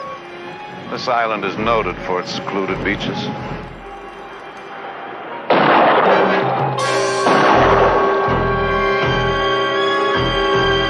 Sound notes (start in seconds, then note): 5.4 gun firing